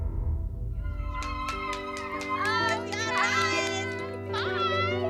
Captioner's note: excited chatter